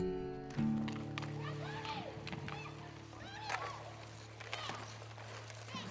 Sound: excited chattering

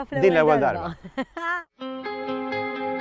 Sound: laughs

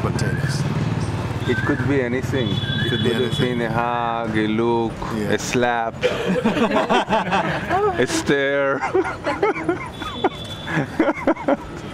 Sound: laughter

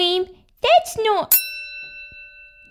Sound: ding!

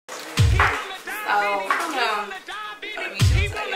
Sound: indistinct chatter

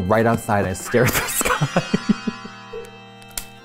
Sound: laughs

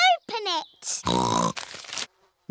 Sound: snorts

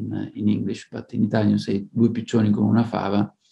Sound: speaking in Italian

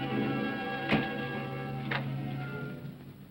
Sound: ominous music; door closes

